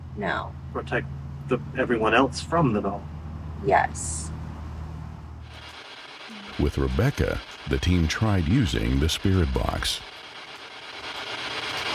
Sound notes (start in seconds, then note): 5.4 static crackling